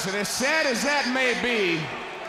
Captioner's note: crowd chatter